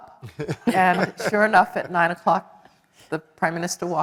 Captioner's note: laugh